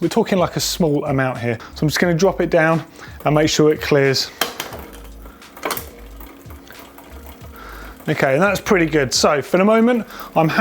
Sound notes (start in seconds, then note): 4.5 bicycle chain moving